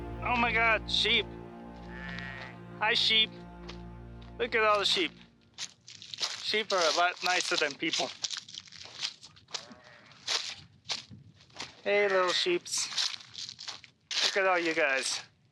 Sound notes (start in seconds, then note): 1.8 sheep bleating; 9.6 sheep bleating; 10.2 feet rustling